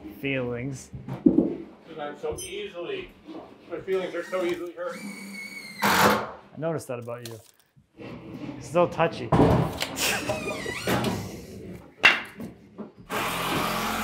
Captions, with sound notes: Feelings. - 'Cause I'm so easily, my feelings are so easily hurt. - I noticed that about you. You're so touchy. (laughs) (drill whirring)